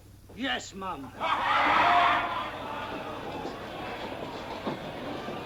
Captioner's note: laughing